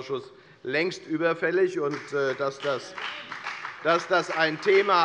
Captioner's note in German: Beifall bei der FDP - Zuruf von der CDU